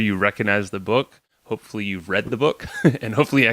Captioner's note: laughs